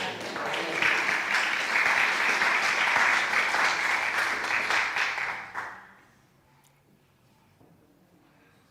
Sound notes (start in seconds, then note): 0.0 applause!